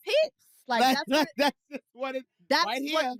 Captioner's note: laughs